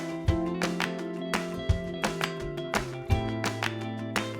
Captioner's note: hands clapping; upbeat music